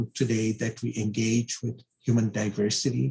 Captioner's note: laughs